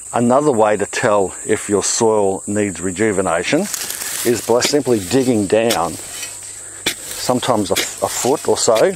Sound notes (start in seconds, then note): 6.1 soil rasping